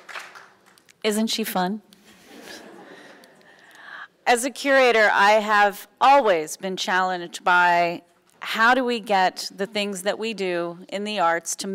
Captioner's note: laughs